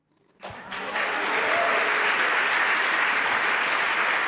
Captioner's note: applause